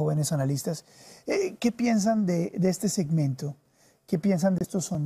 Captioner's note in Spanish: HABLA EN INGLéS